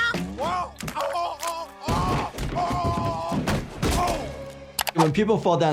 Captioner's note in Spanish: golpe sordo del personaje